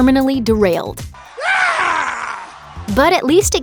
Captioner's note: the scream